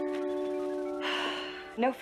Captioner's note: sighs